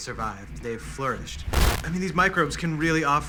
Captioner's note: static